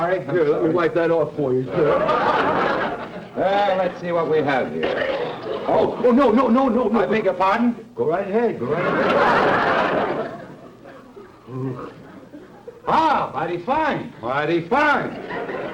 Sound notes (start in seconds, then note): 8.6 audience laughter